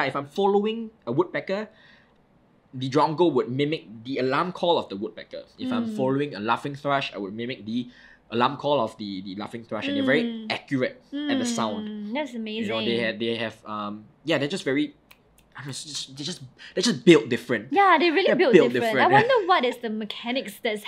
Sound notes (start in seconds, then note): 15.1 snapping